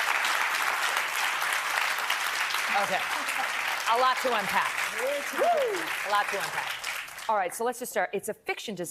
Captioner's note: applause